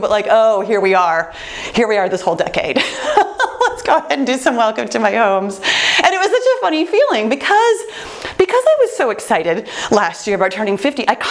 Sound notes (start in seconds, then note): 2.8 laughs